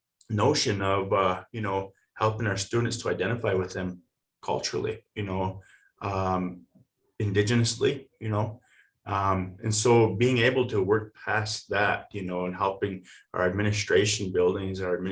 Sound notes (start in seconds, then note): none